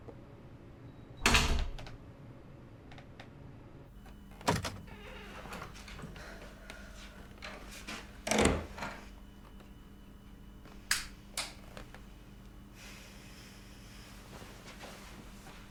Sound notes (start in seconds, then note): 1.2 door closes; 4.0 door opens; 8.0 door closes; 10.9 switch clicks